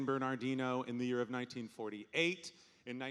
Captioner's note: none